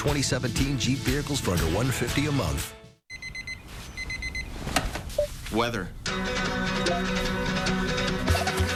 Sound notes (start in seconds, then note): 3.1 alarm clock beeping